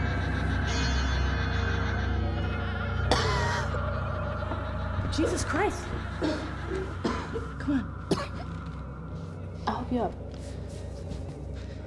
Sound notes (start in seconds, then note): 3.0 Claire coughs; 8.2 Claire coughs